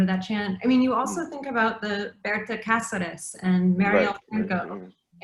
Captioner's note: foreign language spoken